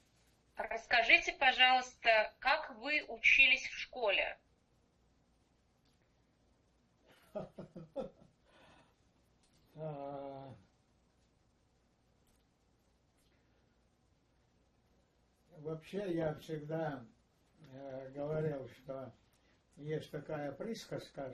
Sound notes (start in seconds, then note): 7.2 laughing